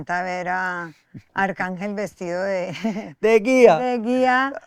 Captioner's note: laughs